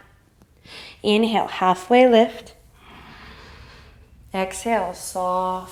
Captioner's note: inhale